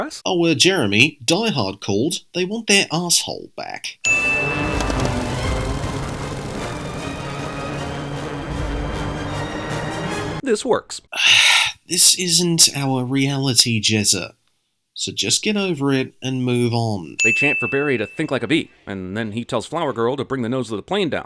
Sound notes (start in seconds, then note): 11.1 sigh